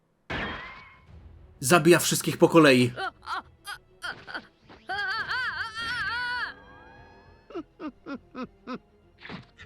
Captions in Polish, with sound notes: zabija wszystkich po kolei. [krzyk]